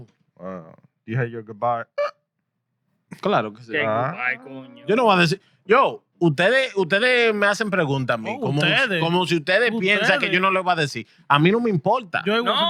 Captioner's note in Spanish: Hablando en idioma extranjero